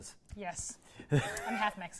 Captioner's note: laughs